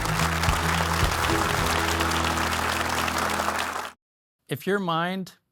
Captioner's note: upbeat music; audience applauding